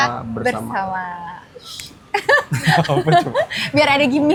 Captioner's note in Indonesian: tertawa